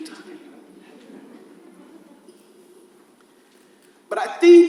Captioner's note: audience laughs softly